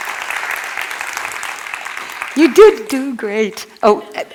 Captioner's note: cheers and applause